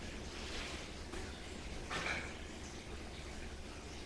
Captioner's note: water dripping